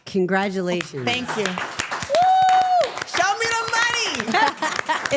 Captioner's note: everyone applauding